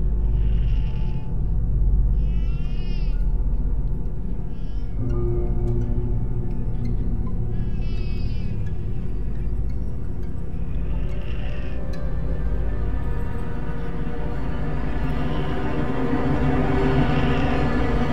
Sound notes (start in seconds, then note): 0.1 eerie music; 2.2 baby crying; 5.1 eerie music; 7.7 baby crying; 10.8 eerie music